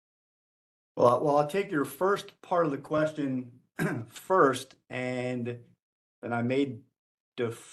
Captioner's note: cough